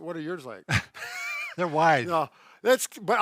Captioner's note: laughing